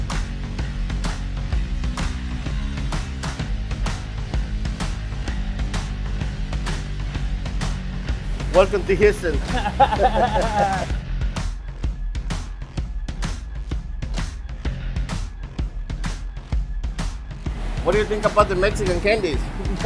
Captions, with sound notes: Welcome to Houston. (laughing) What do you think about the Mexican candies?